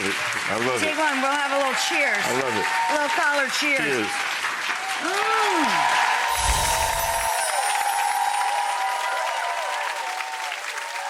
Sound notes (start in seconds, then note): 2.2 crowd cheering and applauding; 5.5 crowd continue applauding